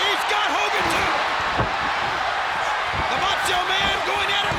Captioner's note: audience cheers